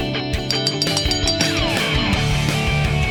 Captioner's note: bell ringing